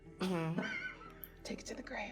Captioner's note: laughing